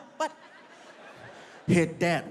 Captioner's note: audience laughs